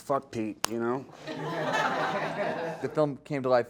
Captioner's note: audience laughing